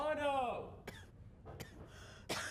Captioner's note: coughing